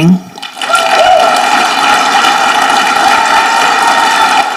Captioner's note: audience clapping